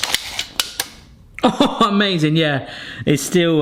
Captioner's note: laughs